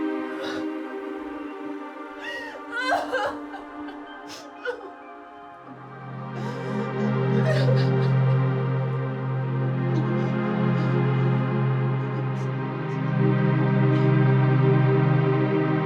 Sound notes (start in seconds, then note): 2.2 crying; 5.1 gentle music